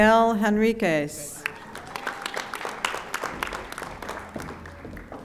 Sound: audience applauding

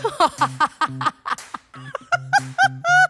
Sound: laughs

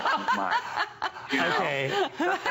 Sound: laughter

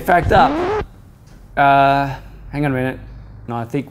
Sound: record scratches

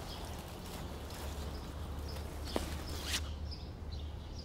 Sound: birds chirping

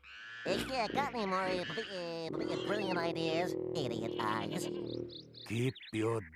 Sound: stuttering

